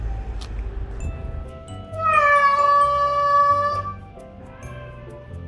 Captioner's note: Bong-nam's screaming